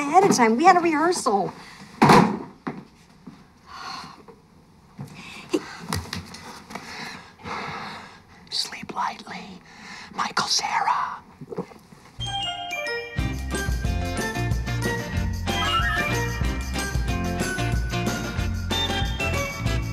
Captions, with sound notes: We had a rehearsal. [ Sighs ] Sleep lightly, Michael Cera. [ Gulps ]